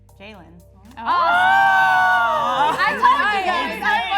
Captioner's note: surprised chatter